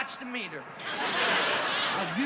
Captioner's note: laughter